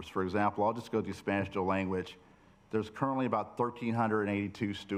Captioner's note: none